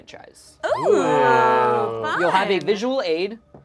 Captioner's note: overlapping chattering